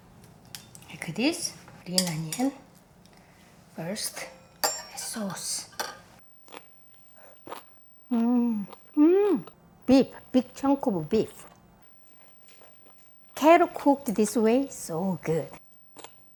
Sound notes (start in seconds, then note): 3.9 utensils clanging; 7.4 vegetable crunching